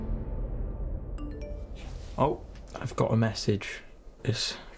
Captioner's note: phone chimes